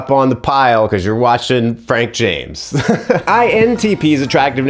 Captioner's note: laughs